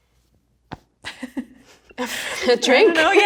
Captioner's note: laughs